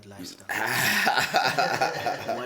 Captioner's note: laughs